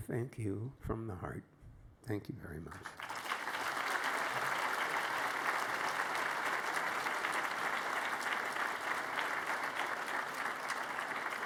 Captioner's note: applause